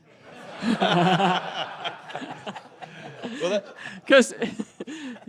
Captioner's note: laughter